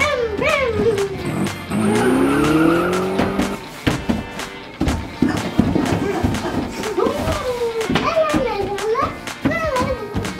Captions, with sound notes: Vroom vroom. (car engine revving) (stomping) (singing)